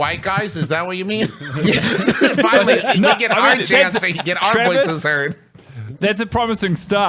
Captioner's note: laughs